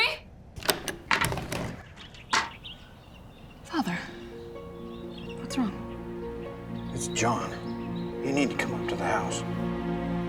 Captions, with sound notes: YOU'RE NOT TAKING HIM TONIGHT DIGBY, YOU HEAR ME? [DOOR OPENS] FATHER... WHAT'S WRONG? IT'S JOHN, YOU NEED TO COME UP TO THE HOUSE.